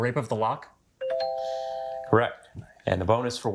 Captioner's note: text chimes